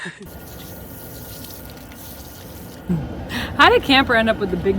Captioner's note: water hissing; pump rumbling